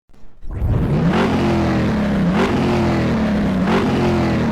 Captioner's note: engine revving